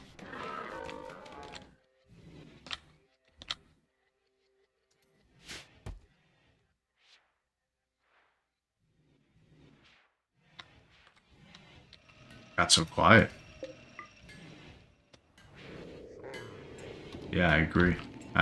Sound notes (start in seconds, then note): 0.7 clicking; 3.3 clicking; 13.9 clicking